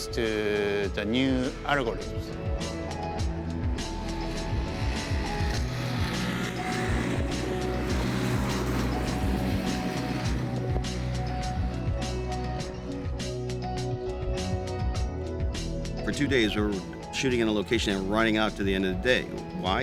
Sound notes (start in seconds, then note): 3.9 engine revs; 7.2 upbeat music